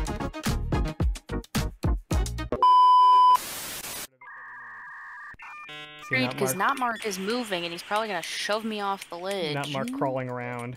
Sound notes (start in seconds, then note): 0.0 funky outro music; 2.5 blooper sound; 4.2 dial up noise